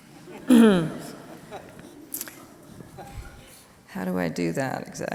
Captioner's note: audience laughing quietly